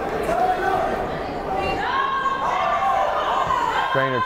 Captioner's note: yelling